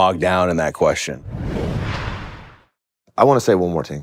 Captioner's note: logo whooshing